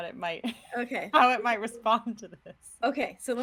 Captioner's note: laughing